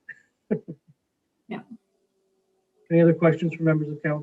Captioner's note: laughing